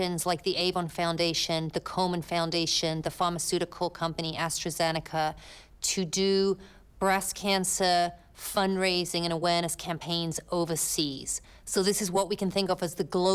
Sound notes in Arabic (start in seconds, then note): none